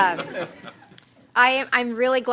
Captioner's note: laughter